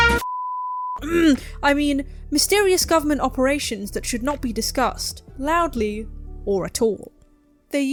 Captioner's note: static; ahem